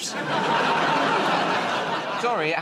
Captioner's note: laughter